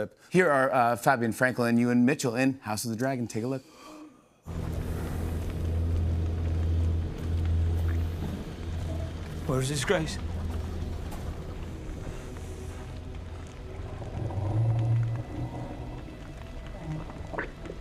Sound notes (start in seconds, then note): 4.4 dramatic music plays; 4.4 fire crackling; 13.2 dragon growling